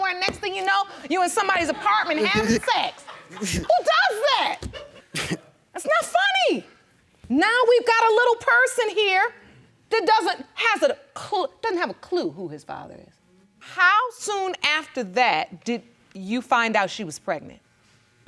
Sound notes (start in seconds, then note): 3.2 audience laughing; 4.8 snickers